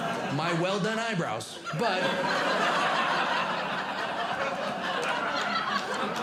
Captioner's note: audience Laughing